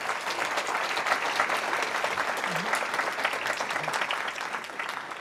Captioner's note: audience clapping